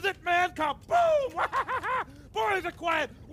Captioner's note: laughs